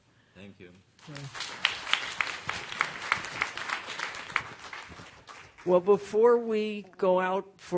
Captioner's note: applause